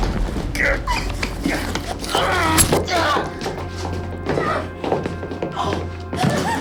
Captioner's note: Lindsay grunting; Robert groaning